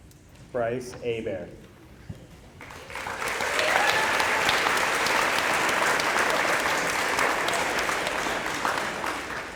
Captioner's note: applause